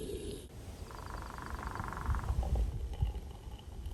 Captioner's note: sound of woodpecker